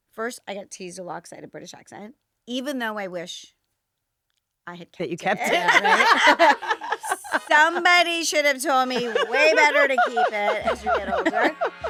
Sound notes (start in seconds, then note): 5.3 all laughing